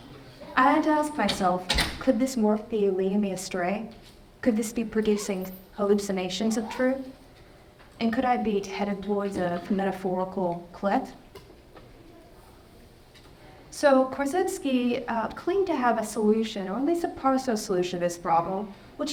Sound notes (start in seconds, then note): 1.6 door thudding